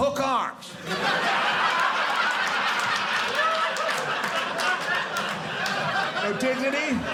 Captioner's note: audience laughing